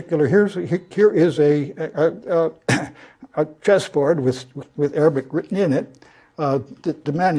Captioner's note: cough